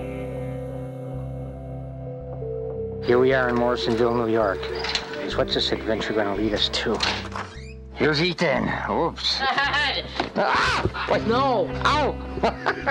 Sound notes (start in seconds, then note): 10.4 laughing; 12.3 chuckling